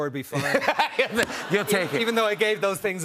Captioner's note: laughter